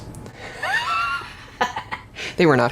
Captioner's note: laughs